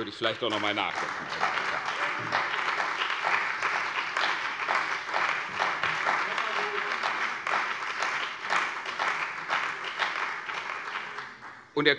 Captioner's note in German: Beifall bei der CDU und dem BÜNDNIS 90/DIE GRÜNEN